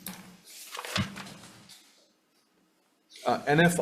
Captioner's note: papers rustling